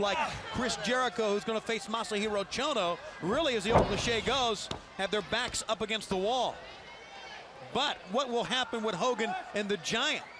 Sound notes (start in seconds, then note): 7.7 crowd chatter